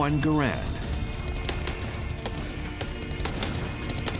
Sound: gunshots

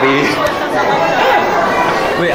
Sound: laughing

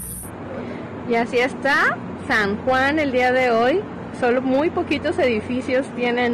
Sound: speaking foreign language

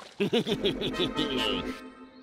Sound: chuckles

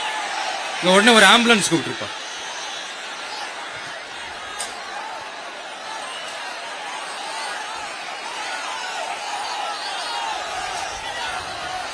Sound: applause

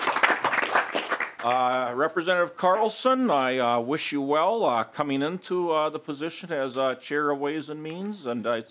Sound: applause

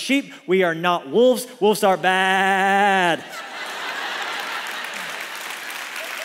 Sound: congregation laughs; congregation applauds

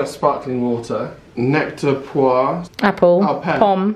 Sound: speaks foreign language

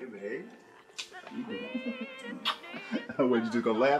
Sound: lips smacking

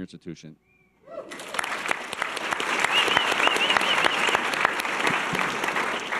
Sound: audience cheers and applause

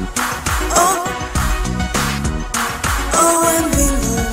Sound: clap

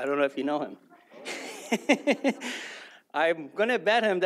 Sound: laughs

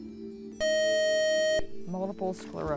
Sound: buzzer

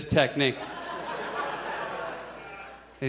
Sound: audience laughs

